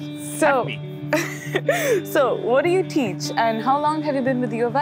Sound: laughs

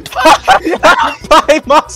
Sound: laughing; laughs; screech laughing; squeals; yelps

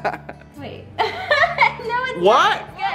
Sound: laughs

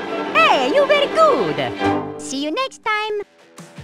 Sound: cartoon Voice

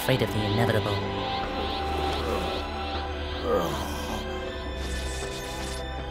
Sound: Cell groans and gets up

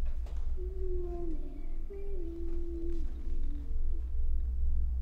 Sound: sing songy voice calls

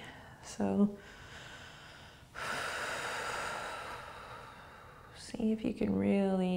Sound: breathing

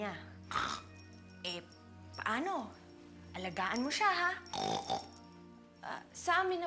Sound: snorts; snorts

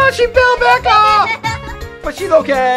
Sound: laughing

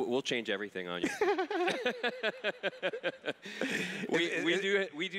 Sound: laugh

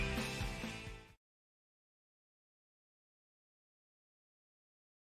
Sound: silence

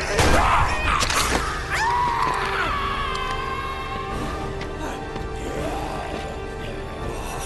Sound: screams

